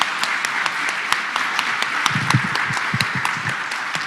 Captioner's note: applause